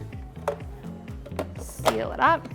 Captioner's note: blender clicks